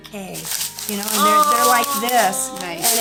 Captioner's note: pebbles jiggling